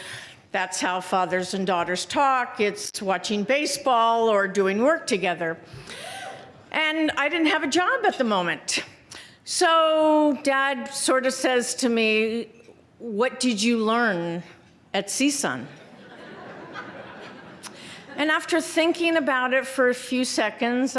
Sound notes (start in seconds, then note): 15.8 laughter